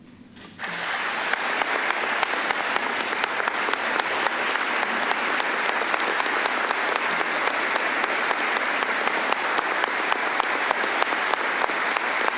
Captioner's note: applause